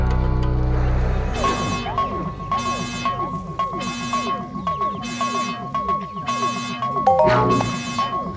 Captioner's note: alarm; notification